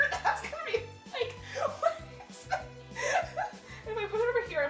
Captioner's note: laughing